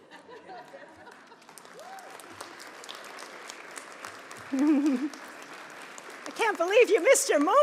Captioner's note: applause